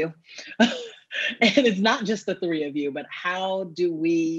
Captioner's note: laughs